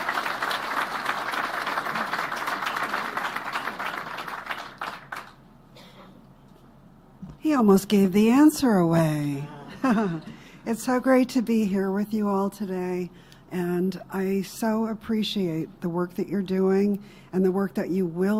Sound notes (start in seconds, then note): 7.3 applause; 9.5 laughs